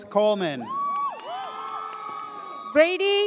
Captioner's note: audience cheers